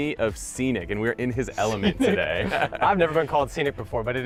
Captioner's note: laughs